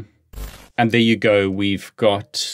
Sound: graphics fuzzing

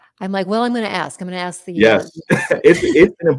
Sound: laughter

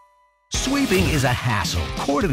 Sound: voiceover

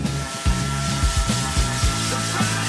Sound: scratching; buzzing; funky music

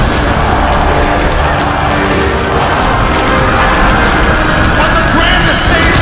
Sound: WWE Universe chanting Rocky

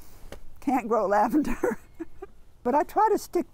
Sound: laughing

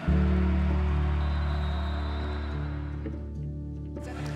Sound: whistling

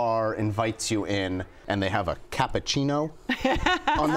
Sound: laughter

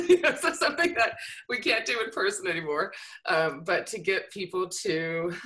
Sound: laughter

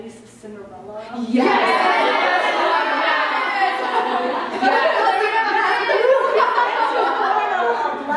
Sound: general merriment and joy

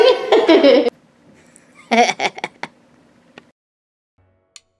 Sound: laughs

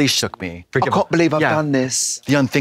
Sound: British accent

